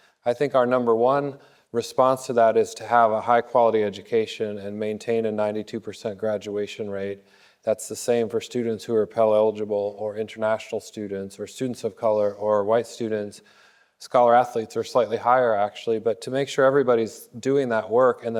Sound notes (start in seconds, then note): none